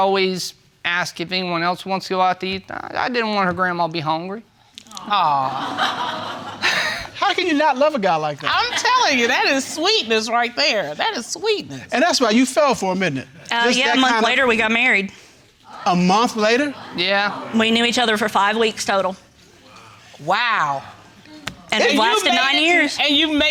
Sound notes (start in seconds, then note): 5.1 audience laughing